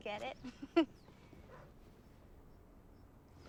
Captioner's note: laughing